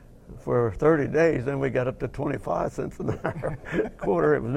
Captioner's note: laughing